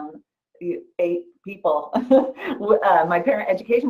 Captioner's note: laughs